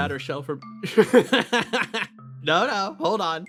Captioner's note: Etete Laugh